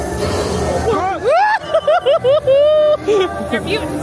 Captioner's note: laughs; scare actor yells